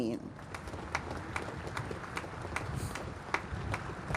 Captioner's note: applause